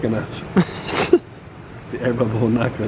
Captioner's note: laughs